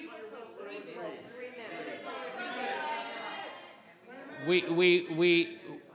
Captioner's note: public interjecting in disagreement